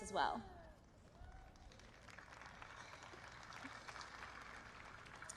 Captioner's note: applause